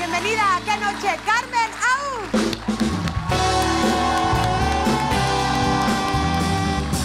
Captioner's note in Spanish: Ovación